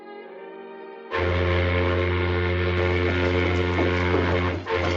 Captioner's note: boat horn blowing